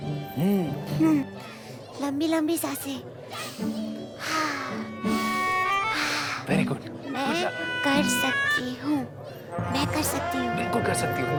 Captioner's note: mutters